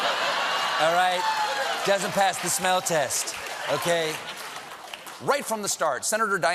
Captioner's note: laughter